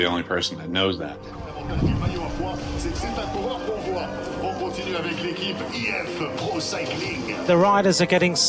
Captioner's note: commentator speaking French